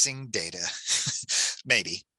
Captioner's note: chuckles